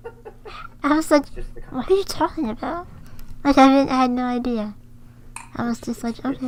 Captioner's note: laughs